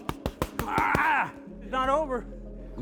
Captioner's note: grunting